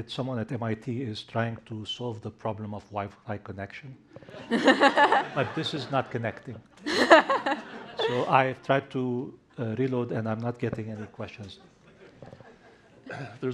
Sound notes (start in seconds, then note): 6.8 laughter